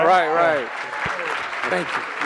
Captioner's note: audience applauding